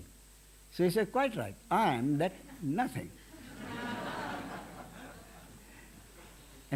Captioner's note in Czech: smích